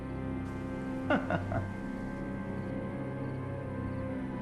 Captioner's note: Sean laughs